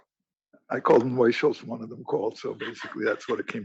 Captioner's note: cough